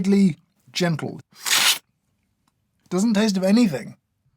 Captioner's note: slurp